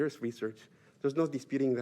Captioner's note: spanish